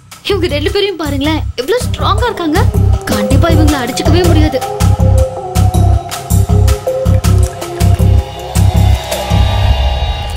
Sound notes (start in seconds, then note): none